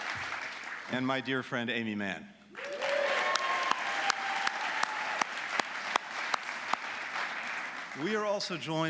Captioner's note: applause